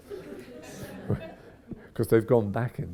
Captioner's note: audience chuckles